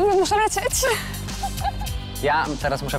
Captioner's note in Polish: śmiech